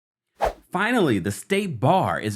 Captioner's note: air whooshing